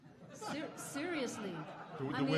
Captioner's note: audience laughing